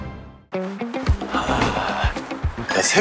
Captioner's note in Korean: 하아